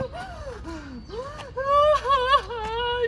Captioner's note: more sobs